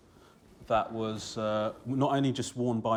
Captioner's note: none